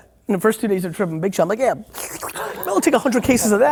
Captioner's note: slurps